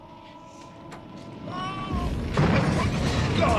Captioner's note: mengerang